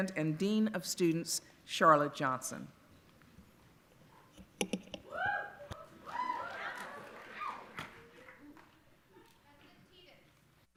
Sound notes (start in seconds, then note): 5.0 audience cheering